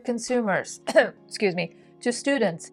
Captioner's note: cough